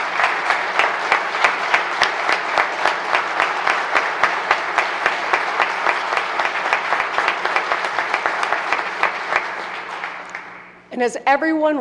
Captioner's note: applause